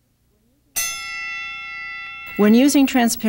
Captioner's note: bell rings